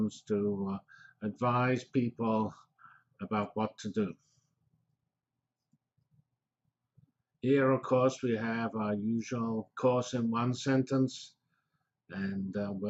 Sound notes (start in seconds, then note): 4.6 pause